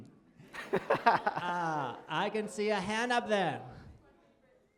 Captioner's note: laughter